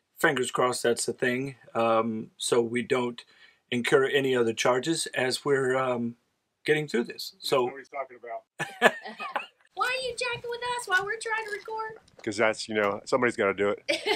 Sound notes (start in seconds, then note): 8.6 laugh